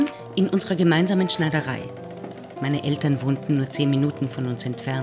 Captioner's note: sewing machine whirring